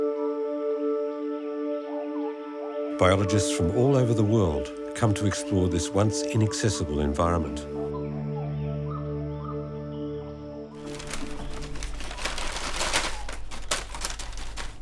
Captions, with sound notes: Biologists from all over the world come to explore this once inaccessible environment. (paper rustling)